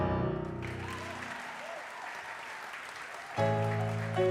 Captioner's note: audience applause